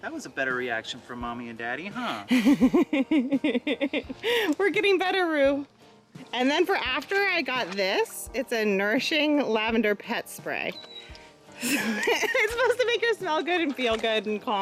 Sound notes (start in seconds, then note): 2.3 laughter; 11.6 laughs